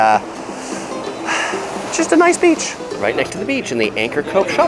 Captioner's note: sighs